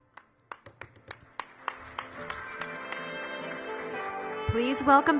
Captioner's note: audience applauding; instrumental music